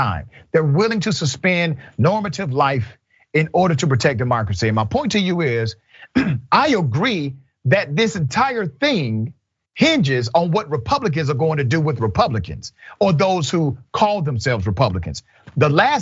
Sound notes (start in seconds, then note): 6.1 cough